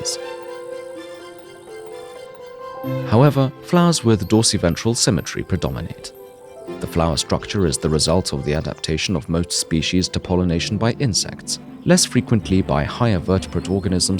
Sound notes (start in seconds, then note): 9.7 bird voices